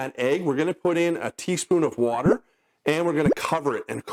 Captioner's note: bubble pops